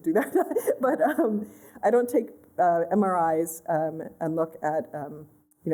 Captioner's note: laughter